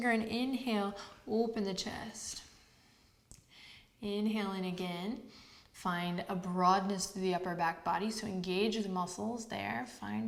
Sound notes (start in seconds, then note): none